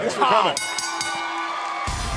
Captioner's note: bell